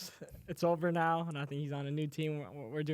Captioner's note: laughs